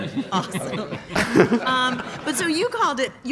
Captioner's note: laughs